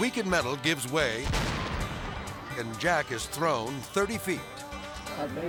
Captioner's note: dynamite explodes